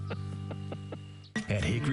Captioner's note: laughing